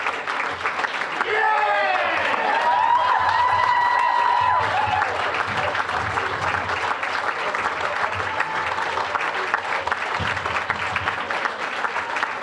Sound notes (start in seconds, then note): 2.7 applause, cheering; 9.6 applause